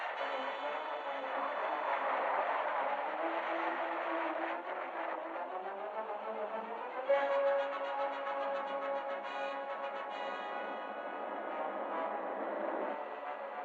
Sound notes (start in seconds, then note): 8.5 airplane rumbling